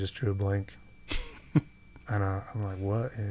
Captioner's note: chuckles